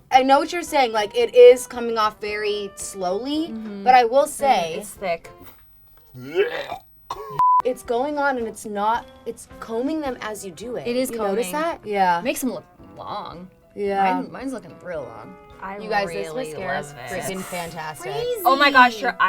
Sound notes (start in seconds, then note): 5.4 retches; 7.3 beep